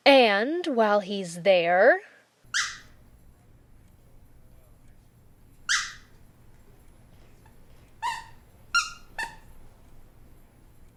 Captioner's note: squeaky toy